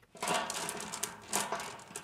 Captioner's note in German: Rasseln